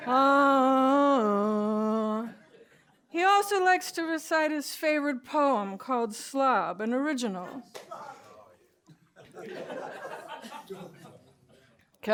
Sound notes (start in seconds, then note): 7.5 laughs; 9.0 laughter